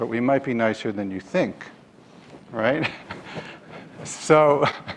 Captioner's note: laughs